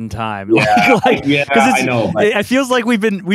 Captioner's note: laughs